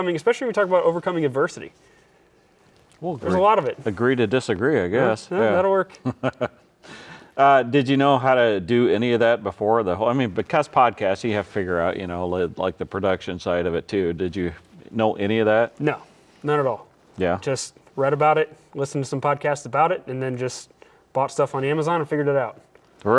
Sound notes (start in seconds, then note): 5.9 laughs